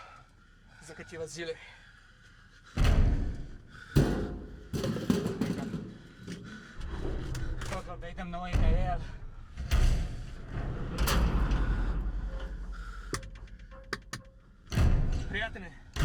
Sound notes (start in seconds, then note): 3.8 pounding on metal